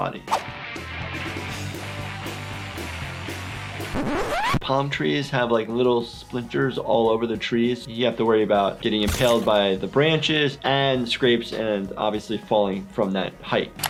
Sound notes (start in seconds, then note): 0.4 aggressive rock music; 3.8 record screeching